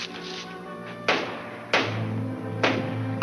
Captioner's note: banging